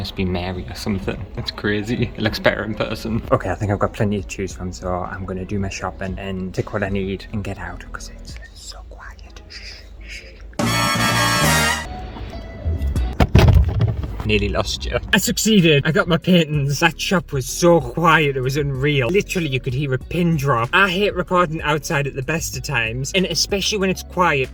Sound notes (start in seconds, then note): 13.0 thud!